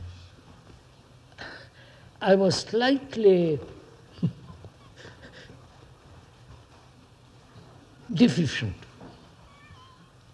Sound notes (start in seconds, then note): 4.1 laughs